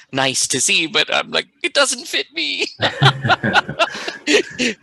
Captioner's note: laughing